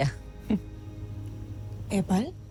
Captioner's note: chuckles softly